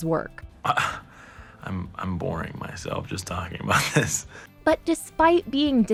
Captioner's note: scoffs